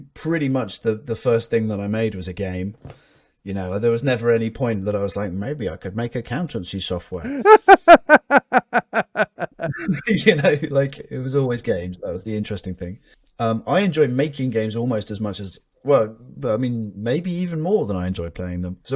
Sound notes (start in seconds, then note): 7.2 both laugh